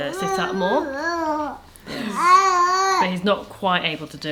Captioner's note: whining